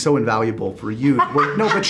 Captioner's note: laughs